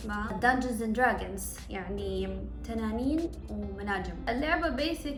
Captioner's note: explains in Arabic